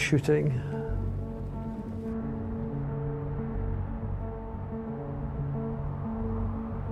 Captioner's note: ominous music; wind whooshing